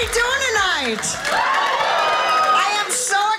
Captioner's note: audience cheering